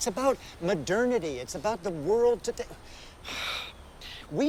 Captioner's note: sighs